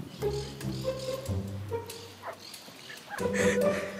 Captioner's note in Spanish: risas